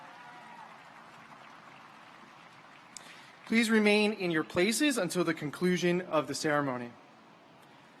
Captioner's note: cheers